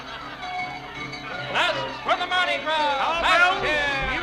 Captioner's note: laughing